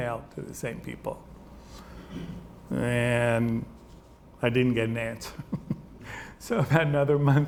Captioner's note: chuckles